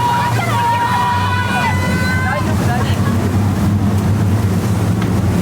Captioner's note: speaking in foreign language